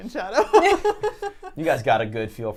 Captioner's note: laughs